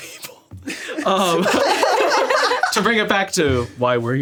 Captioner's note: all laughing